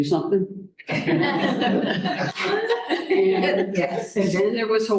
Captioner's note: laughter